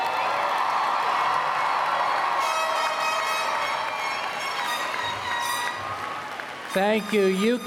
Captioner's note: applause